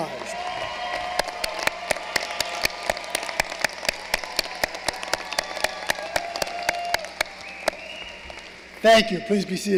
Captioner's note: applause